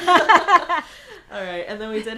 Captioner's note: laughing